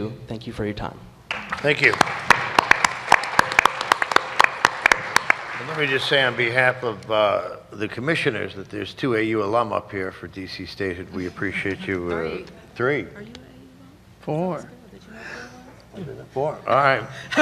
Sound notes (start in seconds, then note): 1.3 applause